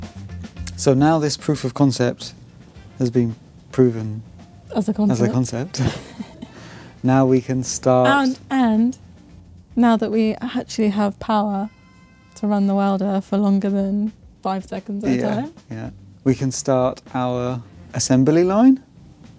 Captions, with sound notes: So now this proof of concept has been proven-- As a concept. As a concept. [LAUGHS] Now we can start-- And now that we actually have power to run the welder for longer than five seconds at a time. Yeah, yeah. We can start our assembly line.